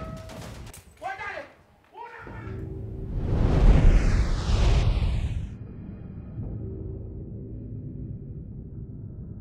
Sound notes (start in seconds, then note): 2.8 woosh